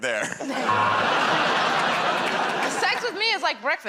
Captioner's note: buzzer